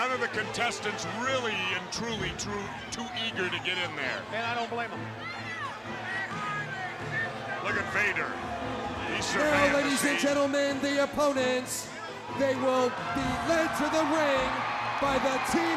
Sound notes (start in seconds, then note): 0.8 crowd chatter